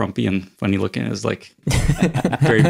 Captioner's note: laugh